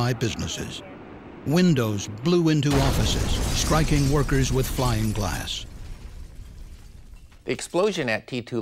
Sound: sound of explosion

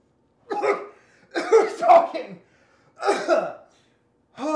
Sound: coughs

